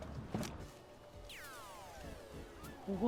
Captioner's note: video game beeping